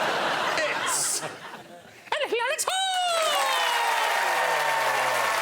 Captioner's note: high pitched voice